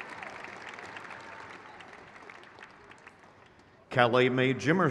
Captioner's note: crowd cheers